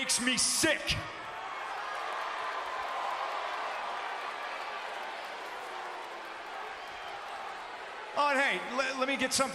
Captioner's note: applause